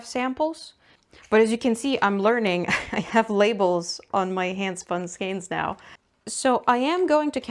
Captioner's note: laughs